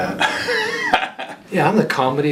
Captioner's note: laughing